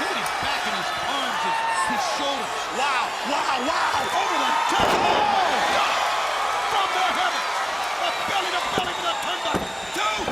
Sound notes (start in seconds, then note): 5.3 crowd cheering